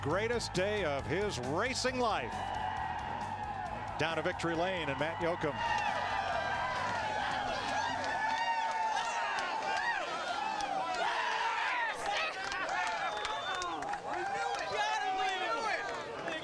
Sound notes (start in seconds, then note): 6.4 cheering; 10.8 cheers and applause; 15.8 cheering